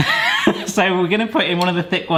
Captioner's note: wheezing